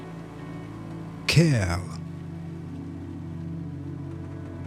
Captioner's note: german